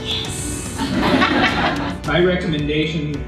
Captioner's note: audience laughing